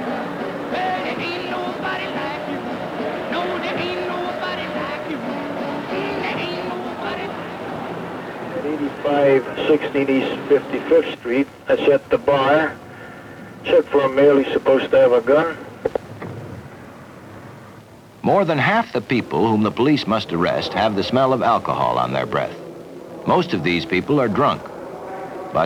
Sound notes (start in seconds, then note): 0.1 singing; 8.1 police dispatch; 19.4 indiscriminate background chatter